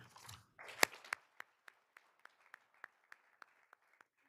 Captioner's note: all applauding